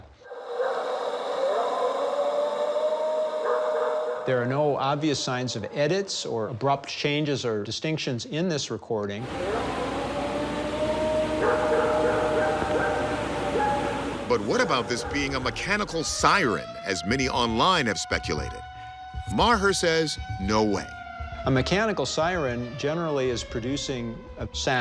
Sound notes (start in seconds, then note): 0.1 recording howling; 9.2 recording howling; 16.4 siren blaring